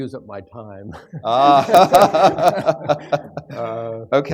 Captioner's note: laughter